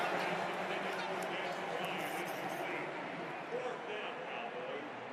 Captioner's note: pa announcement